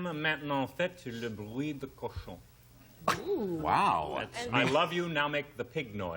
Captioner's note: speaking french